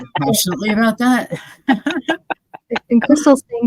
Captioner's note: all chuckling